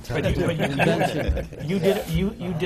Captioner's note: laughter